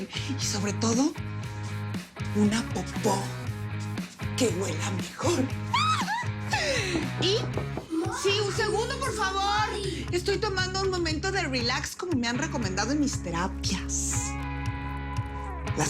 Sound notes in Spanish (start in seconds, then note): 5.7 Grito; 7.2 Toques en la puerta